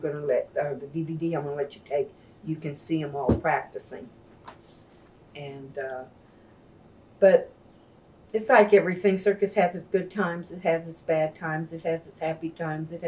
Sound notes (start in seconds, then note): none